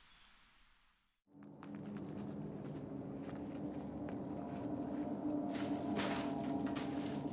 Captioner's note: leaves crunch; ominous music